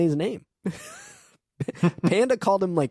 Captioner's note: laughing